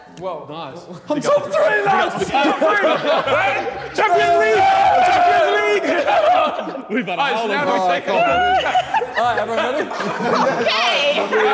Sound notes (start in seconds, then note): 6.5 Sidemen laughing